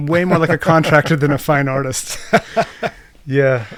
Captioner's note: chuckles